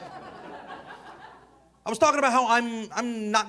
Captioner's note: audience laughing